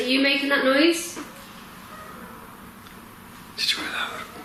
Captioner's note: distant squeaking